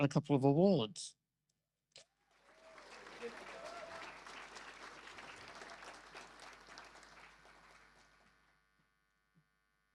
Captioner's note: audience applause